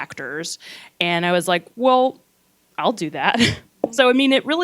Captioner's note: laughs